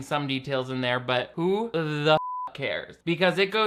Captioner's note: beep